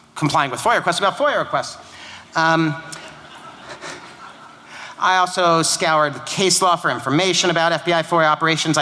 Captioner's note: laughter